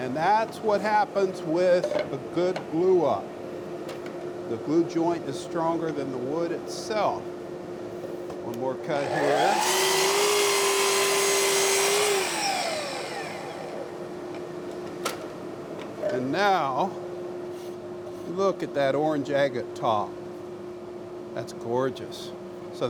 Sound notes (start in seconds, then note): 9.0 machine cutting